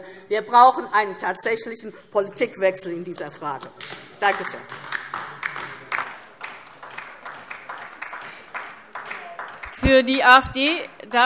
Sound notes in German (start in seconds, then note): 4.2 Beifall DIE LINKE